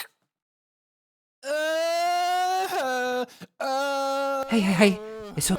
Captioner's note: young sad noises